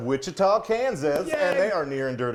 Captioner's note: claps